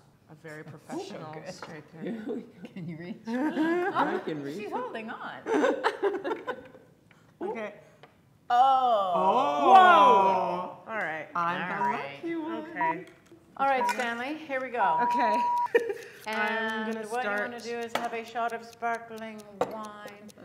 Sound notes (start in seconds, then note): 5.8 laughing